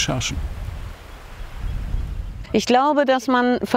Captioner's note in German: Rauschen, Vogelgezwitscher